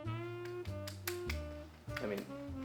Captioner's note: clicking sound